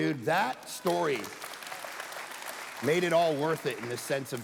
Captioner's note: congregation applauding